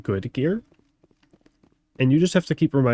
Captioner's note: silence